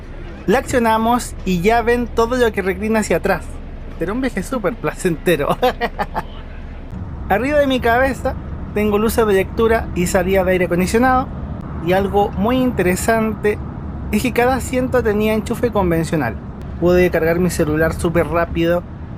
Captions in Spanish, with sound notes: la accionamos, y ya ven todo lo que reclina hacia atrás será un viaje super placentero (risas) arriba de mi cabeza tengo luces de lectura y aire acondicionado y algo muy interesante es que cada asiento tenía enchufe convencional pude cargar mi celular super rápido